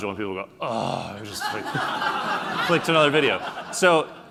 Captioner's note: laughing